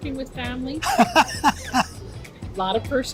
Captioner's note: laughs